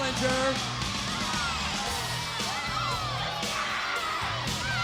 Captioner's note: audience cheering